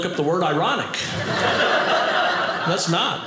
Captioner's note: audience laughing